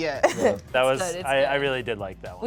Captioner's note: laughs